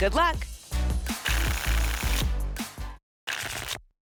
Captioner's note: tickets shuffling